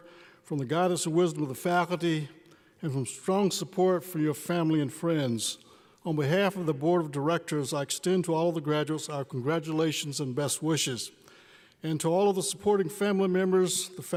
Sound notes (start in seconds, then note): none